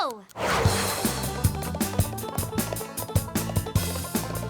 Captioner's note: clock ticking